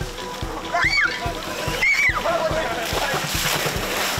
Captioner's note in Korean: 꺄아아아아~악~